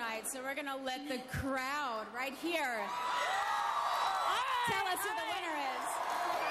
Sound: cheers and applause

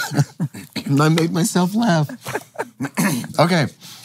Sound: laughs

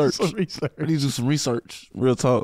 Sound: laughing

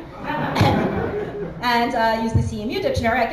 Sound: laughter

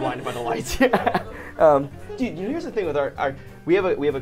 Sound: laughs

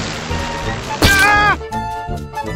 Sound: aah!

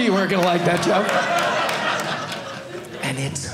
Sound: audience laughing

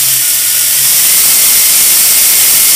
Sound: motor even louder

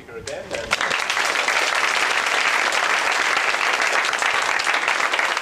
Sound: applause

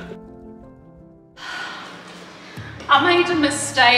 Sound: sighing

